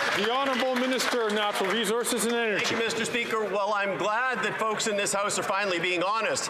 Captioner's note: some Applause